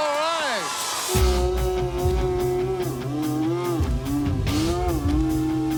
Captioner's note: slow motion yelling